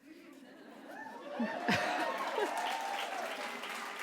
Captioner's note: applause